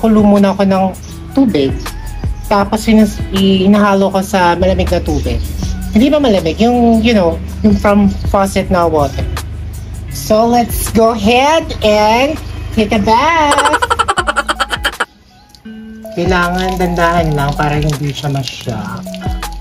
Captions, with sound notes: I boil the water first Then I mix it with cold water It's not really cold, You know Water from the faucet So Let's go ahead and Take a bath [Laughing SFX] You need to do it slowly so she won't be shocked